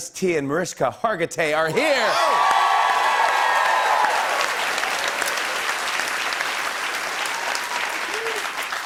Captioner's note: cheers and applause